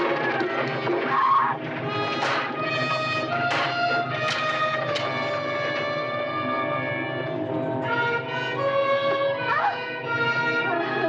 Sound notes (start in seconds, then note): 1.1 Lady Haloran screaming; 6.1 suspenseful orchestral music continues